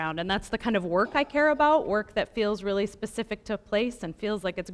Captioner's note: none